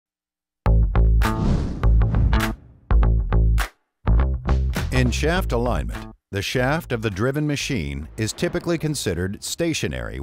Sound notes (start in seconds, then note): 0.7 lively music; 1.3 screen whooshing